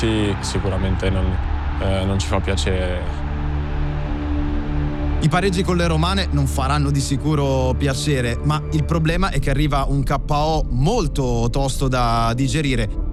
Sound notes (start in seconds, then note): 3.4 crowd cheering